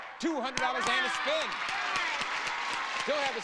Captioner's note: audience applauding